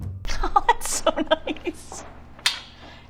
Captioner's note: laughing